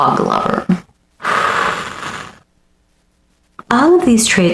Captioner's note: breathing through it